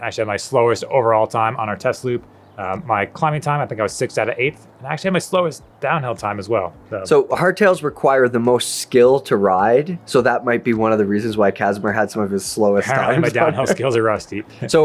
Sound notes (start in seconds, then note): 12.7 laughs